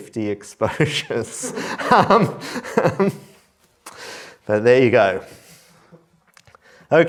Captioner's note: laughs